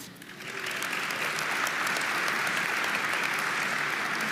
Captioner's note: audience applauding